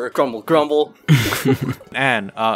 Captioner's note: chuckles